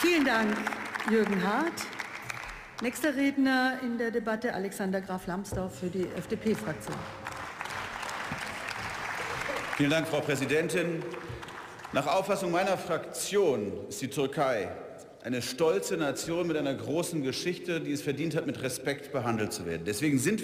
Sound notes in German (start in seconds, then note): 6.2 Beifall